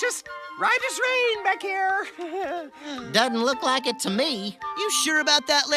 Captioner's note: laughs nervously